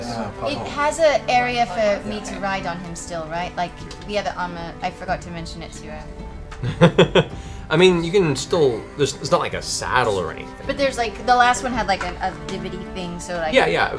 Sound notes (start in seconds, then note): 6.6 laughs